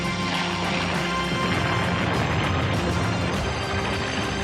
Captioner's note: bomb exploding; dramatic music; plane roaring